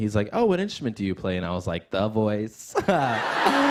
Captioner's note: laughs